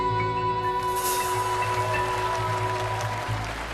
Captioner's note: audience applauding